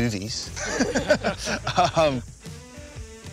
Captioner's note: all laughing